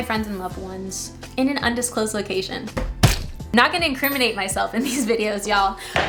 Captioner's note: punch sound